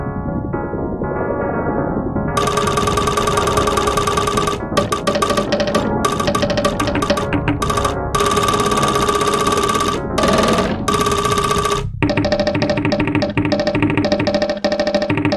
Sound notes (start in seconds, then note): 0.0 a burst of low tones spikes; 2.3 fast percussive bamboo sound strikes; 11.6 the bamboo strikes continue